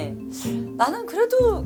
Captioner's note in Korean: 쓰흡